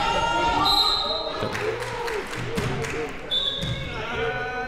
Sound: whistle being blown

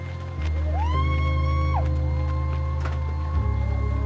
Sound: crowd shouting; slow music

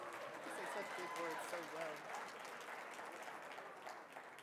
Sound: audience cheering

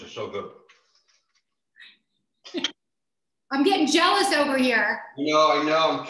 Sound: laughs

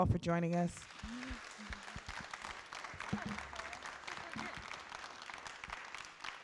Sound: applause

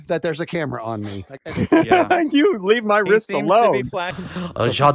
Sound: laughs

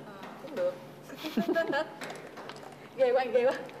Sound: laugh

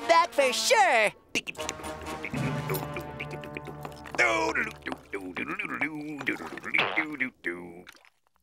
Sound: humming

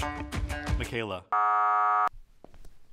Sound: buzzer buzzing; footsteps approaching

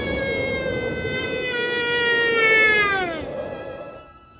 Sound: screams

